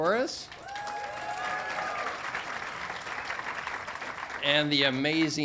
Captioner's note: audience applauding and cheering